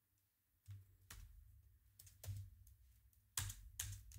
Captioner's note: typing